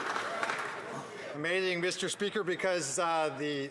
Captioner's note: some Applause